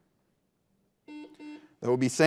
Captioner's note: buzzer buzzing